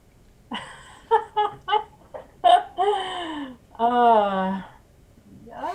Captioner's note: laughing nervously